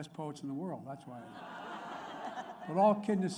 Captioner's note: laughter